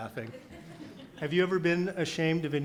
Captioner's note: audience laughs